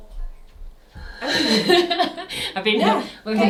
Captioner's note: both chuckle